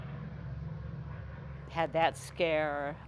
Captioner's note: plane engines rumbling